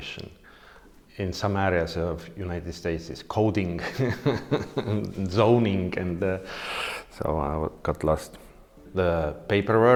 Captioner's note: laughing